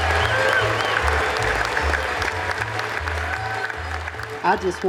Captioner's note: audience cheers and applauds